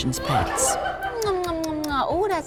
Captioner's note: tongue clicking